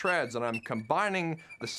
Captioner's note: clicking; squeaking